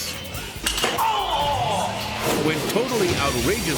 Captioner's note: pogo stick clacks